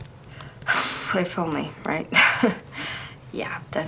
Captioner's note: laughs